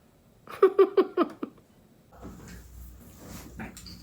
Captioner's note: laughs